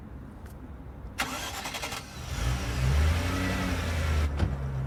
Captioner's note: engine revving